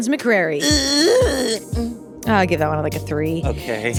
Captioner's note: grunting